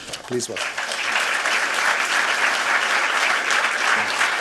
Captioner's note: applause